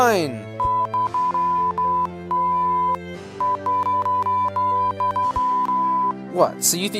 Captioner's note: confrontational beeping